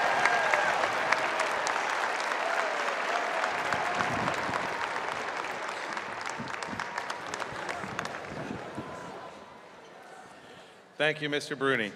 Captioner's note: cheers and applause